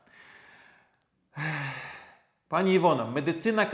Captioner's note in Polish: wciągnięcie powietrza; westchnienie